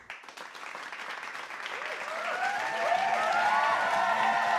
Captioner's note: applause and cheers